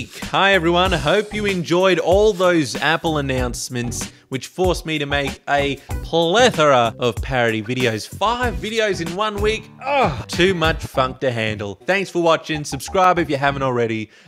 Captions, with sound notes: Hi everyone, hope you enjoyed all those Apple announcements, which forced me to make a plethora of parody videos. 5 videos in one week, [grunting noise]! Too much funk to handle! Thanks for watchin', subscribe if you haven't already.